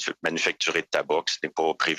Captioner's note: speaking French